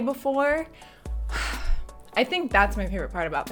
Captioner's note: sigh